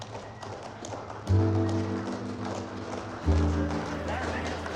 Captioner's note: applause; melancholy music